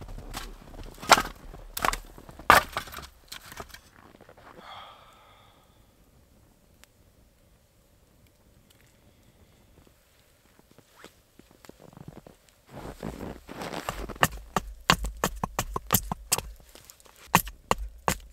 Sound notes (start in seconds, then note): 4.4 sighs; 13.8 hatchet thumping